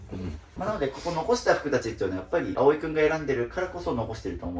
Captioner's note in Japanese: 鼻息